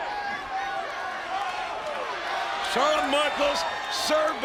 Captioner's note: audience cheering